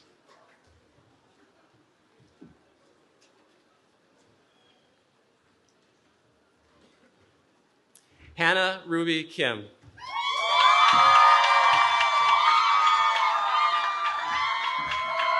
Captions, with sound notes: Hana Ruby Kim. [CHEERING]